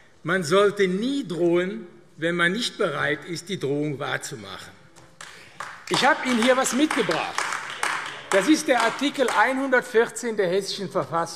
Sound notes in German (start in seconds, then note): 5.1 Beifall AfD